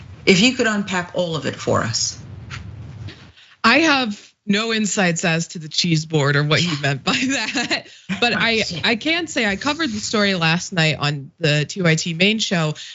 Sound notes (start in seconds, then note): 6.7 laugh